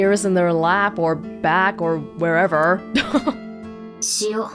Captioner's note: chuckles